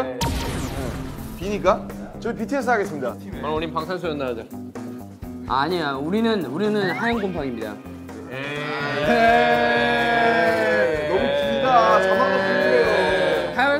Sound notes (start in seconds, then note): 8.1 shouting team name right away